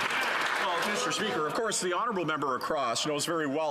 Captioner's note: some Applause